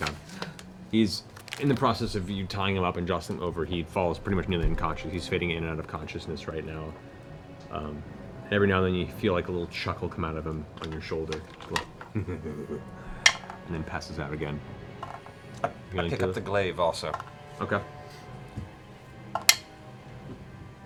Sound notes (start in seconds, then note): 12.0 dark chuckle